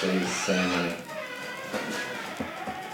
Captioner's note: door creaks